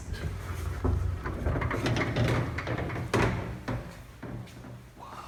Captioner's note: door rattling shut